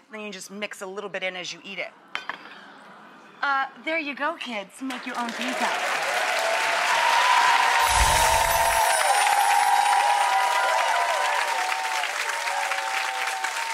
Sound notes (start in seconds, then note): 6.2 applause